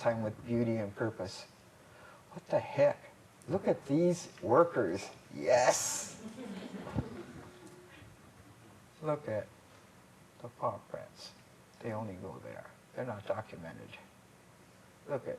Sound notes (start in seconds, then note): 6.1 laughter